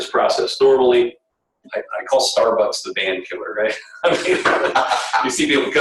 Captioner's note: laughter